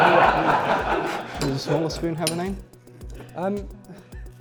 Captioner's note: laughter